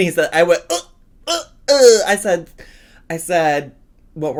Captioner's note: retching